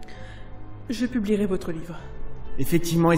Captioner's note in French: la voix nouée